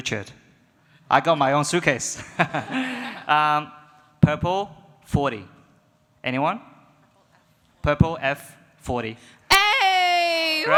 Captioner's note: audience laughs